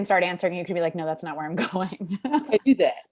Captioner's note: laughs